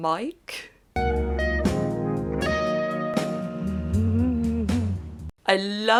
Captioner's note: aroused Fanny noises…ahem